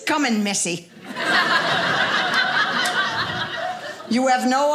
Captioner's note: audience laughing